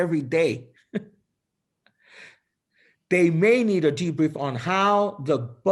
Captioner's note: laughter